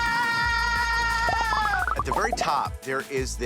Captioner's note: graphics popping